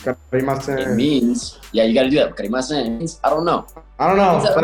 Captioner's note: speaking Japanese; speaking Japanese